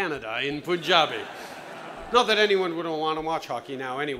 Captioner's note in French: Rires